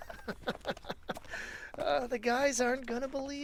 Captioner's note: giddy laugh